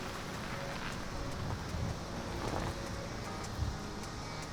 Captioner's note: minivan running